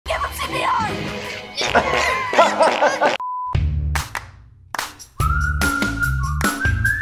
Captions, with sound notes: - Give him CPR! (laughing) (Upbeat music)